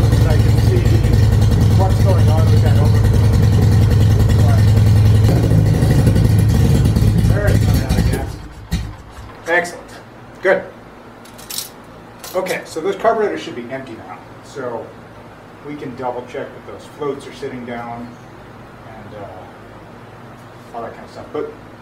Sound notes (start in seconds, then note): 6.8 engine coughing and sputtering; 9.1 engine has stopped